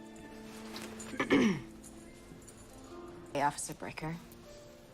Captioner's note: Donavan clearing throat